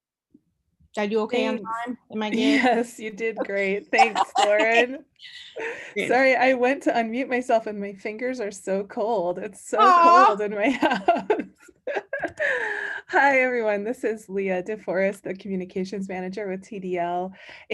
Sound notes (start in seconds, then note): 3.4 laughing; 11.4 laughs